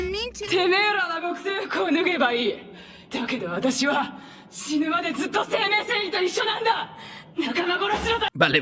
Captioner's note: blasphemous speaking... in Japanese?